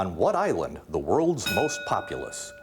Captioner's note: ding